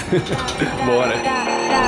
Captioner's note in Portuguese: risadas